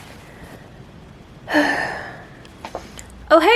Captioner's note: soft sigh